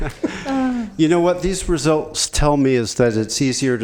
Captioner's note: laughter